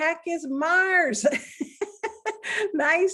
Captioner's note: laughing